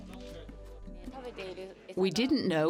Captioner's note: speaking in foreign language